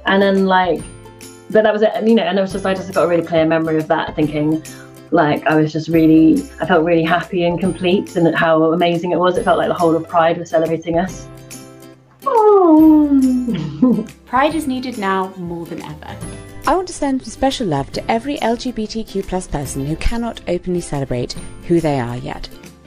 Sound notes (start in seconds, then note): 12.2 kiss; 12.7 giggles; 17.1 voice-over